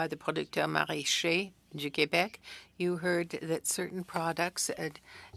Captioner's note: speaking French